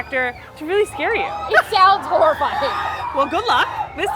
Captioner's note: screams in the background